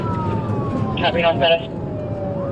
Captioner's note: radio